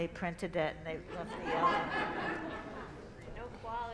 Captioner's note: laughter